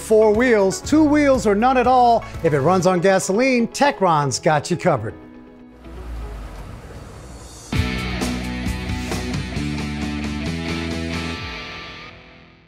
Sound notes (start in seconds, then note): 5.7 engine lightly revving; 7.6 rock music